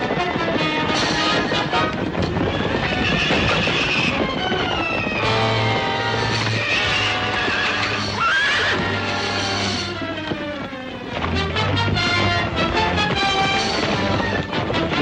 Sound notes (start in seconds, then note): 3.1 horse neighing; 11.2 dramatic music continues